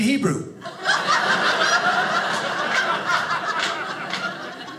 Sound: audience laughing

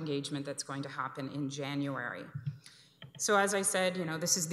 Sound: none

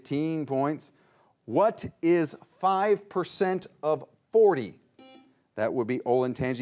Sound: buzzer beeps once

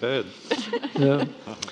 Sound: panelists laughing

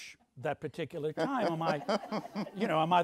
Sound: audience laughs

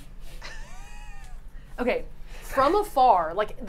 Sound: laughing

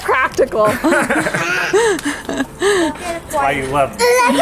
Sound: laughing

